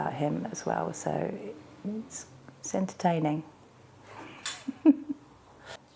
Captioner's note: laughing